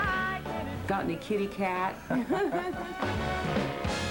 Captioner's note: laughter